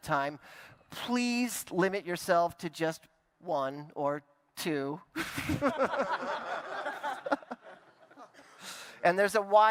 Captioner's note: laughter